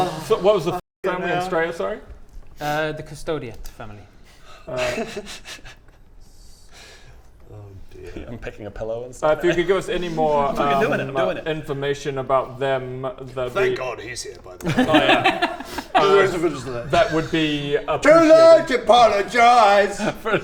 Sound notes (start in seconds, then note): 4.6 giggles; 14.6 laughs in agreement